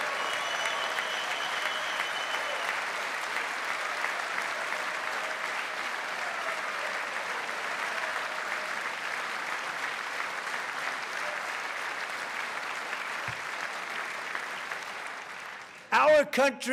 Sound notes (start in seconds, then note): 9.6 cheers